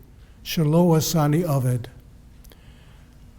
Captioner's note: Hebrew